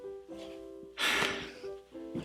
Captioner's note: sighs